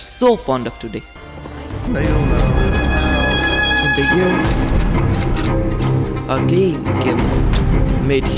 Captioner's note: sound builds up